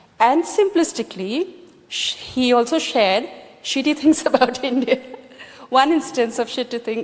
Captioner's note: laughs